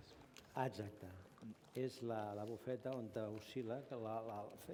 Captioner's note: non-english speech